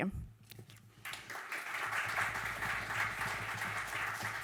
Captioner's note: audience clapping